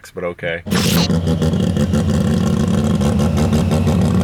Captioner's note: engines rumbling